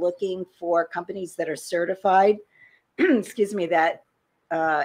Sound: clears throat

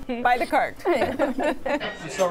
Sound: laughter

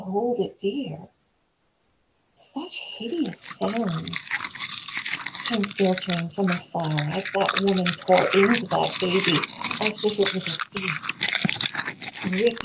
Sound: gnashing wet chewing sound effect

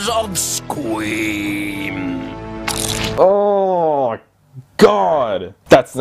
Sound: crunch sound of kid eating into spider

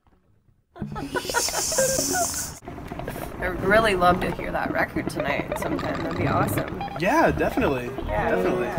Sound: laughing

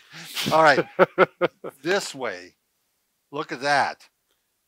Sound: laughs

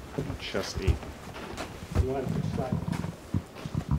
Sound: horse walking

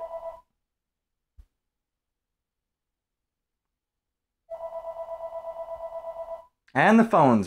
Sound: phone Ringing

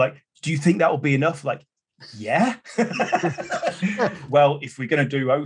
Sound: laughs

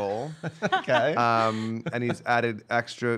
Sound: laughing

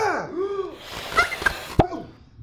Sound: balloon inflating sound

